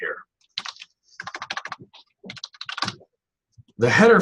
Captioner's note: typing on keyboard